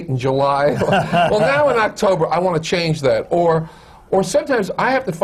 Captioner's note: laughter